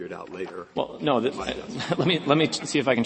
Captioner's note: laughter